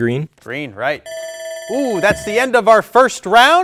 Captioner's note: buzzer dinging